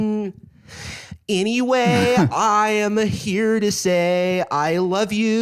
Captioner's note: whiny pop punk voice